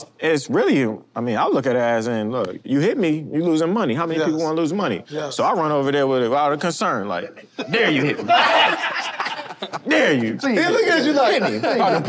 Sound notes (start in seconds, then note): 7.4 group laughs